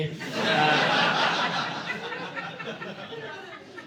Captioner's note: audience laughing